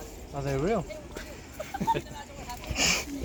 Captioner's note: giggles